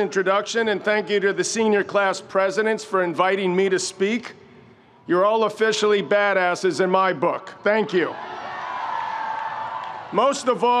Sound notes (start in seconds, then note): 7.7 audience cheering